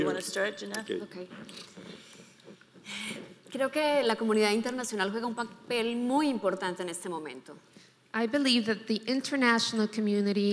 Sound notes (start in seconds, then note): 3.7 speaking in foreign language